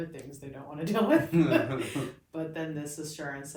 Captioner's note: laughs